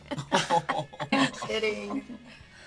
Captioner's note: laughing